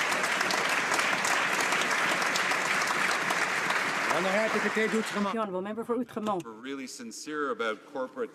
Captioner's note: some Applause